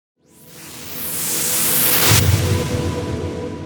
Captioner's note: whooshing